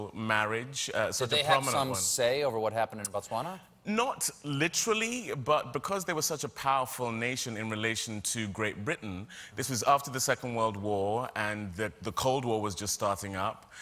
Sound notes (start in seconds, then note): none